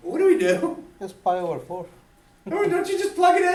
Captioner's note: voiceover